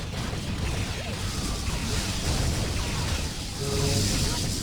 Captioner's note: explosion